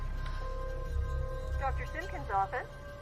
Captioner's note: phone rings